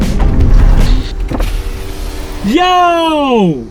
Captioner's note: static